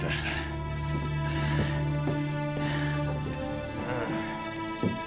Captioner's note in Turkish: Bamsı nefes sesi